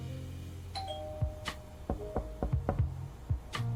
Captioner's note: doorbell ringing; knuckles rapping